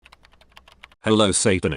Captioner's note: keyboard clicking